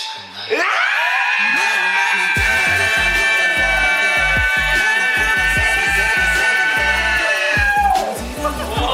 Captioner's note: AROHA: scream for 5 seconds!